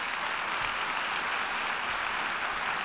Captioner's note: applause